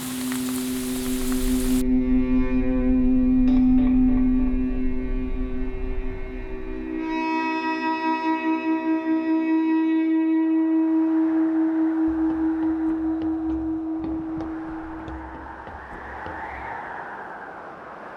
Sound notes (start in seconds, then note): 0.2 somber music; 11.0 wind gusting